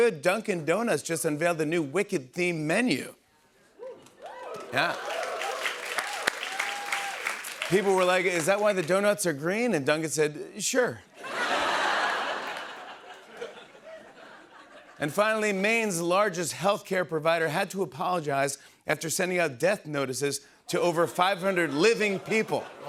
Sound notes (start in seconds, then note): 4.2 applause; 11.2 laughter